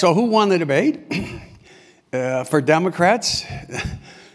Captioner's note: cough